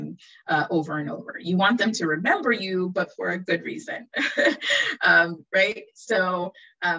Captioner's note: chuckles